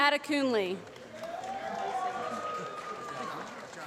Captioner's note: applause